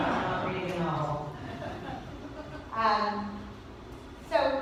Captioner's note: laughter